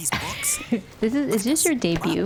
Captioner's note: laughs